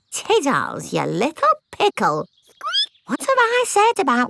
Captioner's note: squeaks